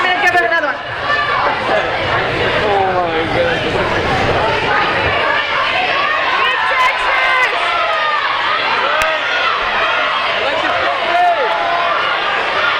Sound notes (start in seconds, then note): 6.5 crowd cheering